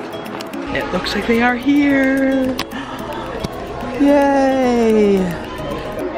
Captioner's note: sighs